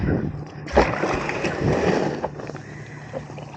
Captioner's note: kayak grinding